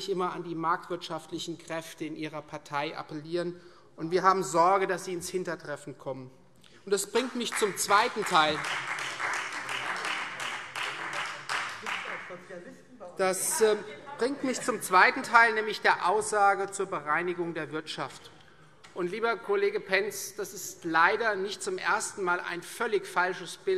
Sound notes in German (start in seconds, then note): 7.1 Beifall Freie Demokraten